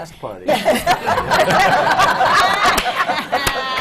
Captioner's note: laughter